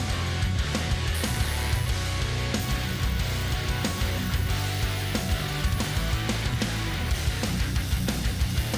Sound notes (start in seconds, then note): 1.1 tool whirring; 1.5 intense rock music continues